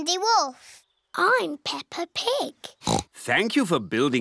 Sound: oinks

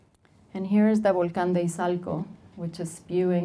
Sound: speaking Spanish

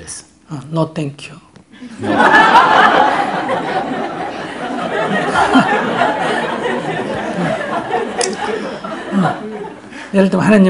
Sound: audience Laughter

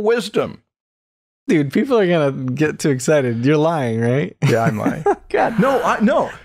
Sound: laughter

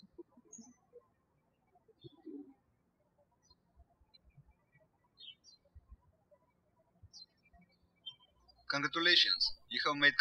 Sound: birds chirping

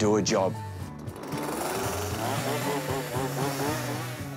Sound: chainsaw whirrs

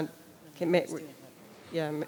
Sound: speaking distantly

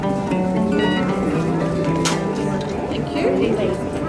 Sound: scanner beeps

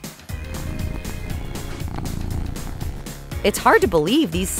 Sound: cat purring

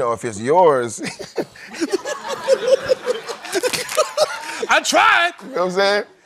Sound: laughter

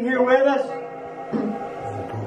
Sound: female voice

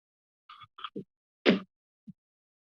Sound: thud

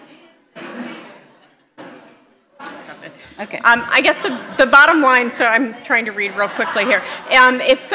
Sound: audience chatter

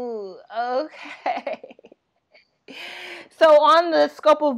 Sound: laughing

